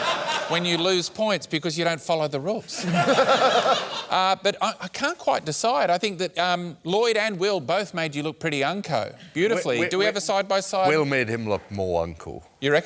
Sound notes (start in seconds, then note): 2.7 laughter